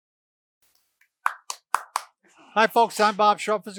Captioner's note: clapping